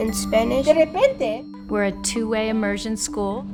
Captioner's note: speaking in foreign language